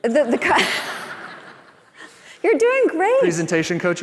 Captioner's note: laughter